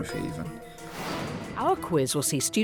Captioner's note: air whooshing